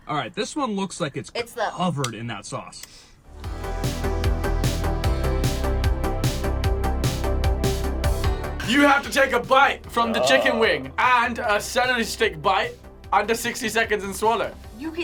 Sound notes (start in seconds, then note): 2.9 lips smacking; 3.5 upbeat music